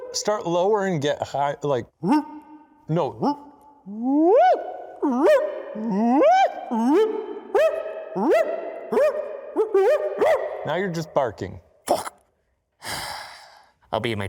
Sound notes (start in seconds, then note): 2.0 howling; 12.8 sighing